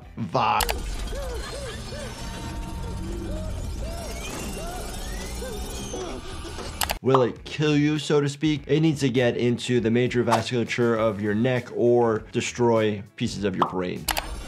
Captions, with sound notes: (character whimpering and screaming) Will it kill you, so to speak? It needs to get into the major vasculature of your neck or destroy pieces of your brain.